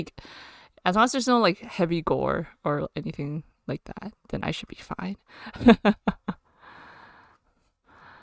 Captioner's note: laughs